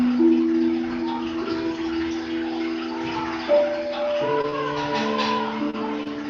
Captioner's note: chatter